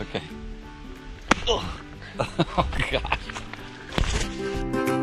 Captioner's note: slap